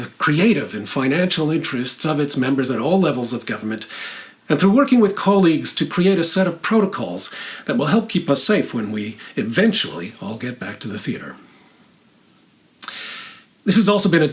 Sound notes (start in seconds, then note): none